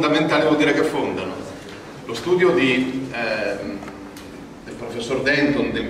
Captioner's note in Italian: in Italian